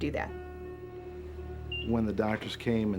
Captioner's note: heart monitor beeping